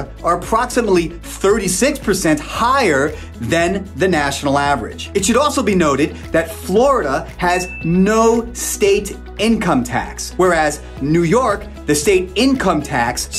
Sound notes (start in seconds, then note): 7.5 graphics ding